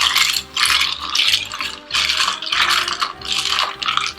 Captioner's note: stirring